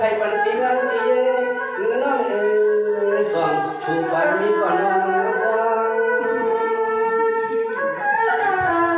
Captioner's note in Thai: เสียงหัวเราะ